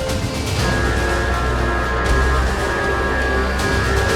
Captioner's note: alarm sounding